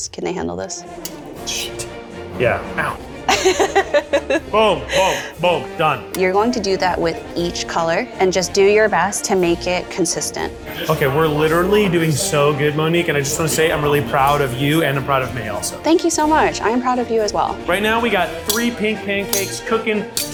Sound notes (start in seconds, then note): 3.2 laughs